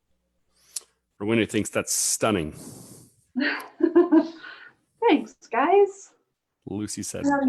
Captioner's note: laughs